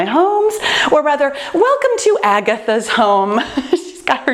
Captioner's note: laughs